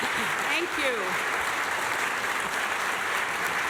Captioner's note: applause and cheering